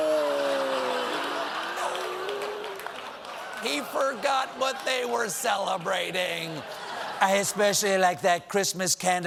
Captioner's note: cheers and applause